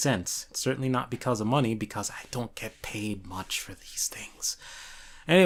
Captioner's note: whispers in broke